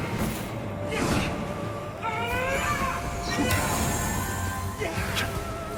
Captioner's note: characters grunting